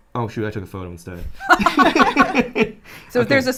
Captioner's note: both laughing